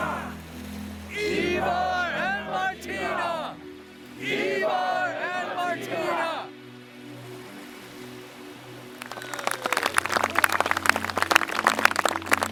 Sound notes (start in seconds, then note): 8.9 people applauding